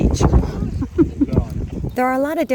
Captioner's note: chuckles